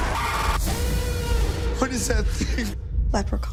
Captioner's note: screaming